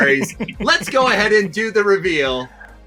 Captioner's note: laughing